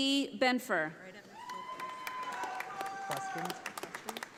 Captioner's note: audience applauding